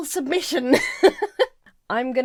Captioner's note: laughs